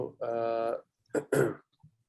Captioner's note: clears throat